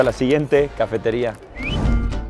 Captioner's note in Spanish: Chiflido de transición